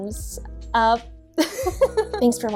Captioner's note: giggles